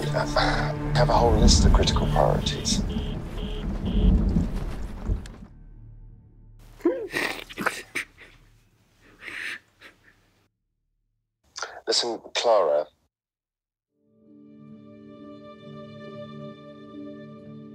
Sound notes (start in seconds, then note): 3.4 Arthur's phone beeps with an 'out of service' tone; 6.8 Arthur gasps for breath